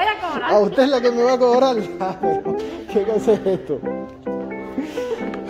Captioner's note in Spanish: risas